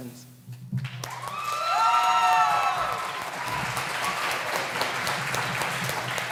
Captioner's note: audience claps and cheers